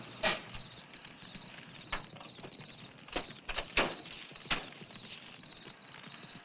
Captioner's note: fire crackling; insects chirping